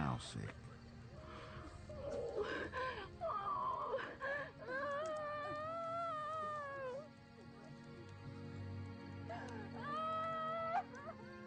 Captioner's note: woman crying